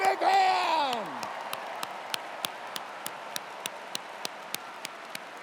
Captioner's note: cheers and applause